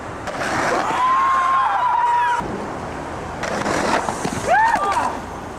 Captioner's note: crowd cheering